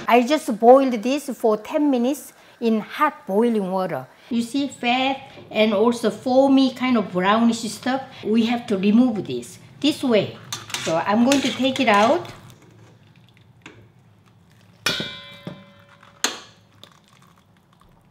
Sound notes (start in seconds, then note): 14.5 bowl clanking